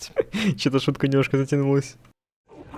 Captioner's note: a few chuckles